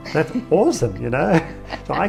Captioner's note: laughing